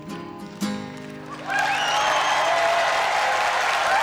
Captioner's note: crowd cheering and clapping